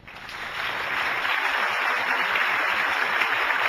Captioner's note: applauding